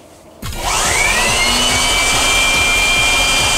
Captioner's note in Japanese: ブロワーの音